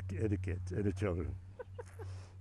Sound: laughing

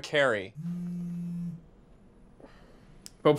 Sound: phone buzzing

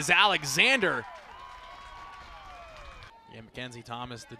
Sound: cheering

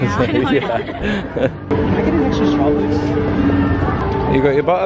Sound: laughs

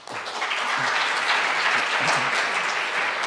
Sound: applause

